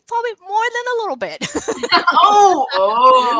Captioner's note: laughter